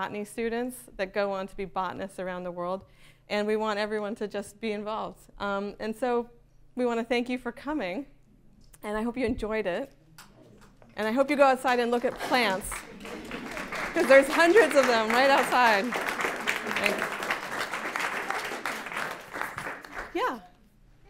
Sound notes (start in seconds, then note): 12.6 applause